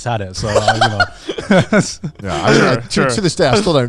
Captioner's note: chuckling